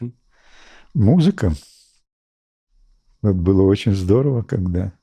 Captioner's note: speaking in Russian